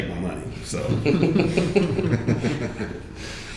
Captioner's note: laughing